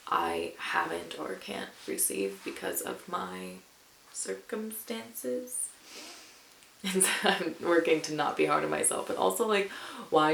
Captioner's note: chuckles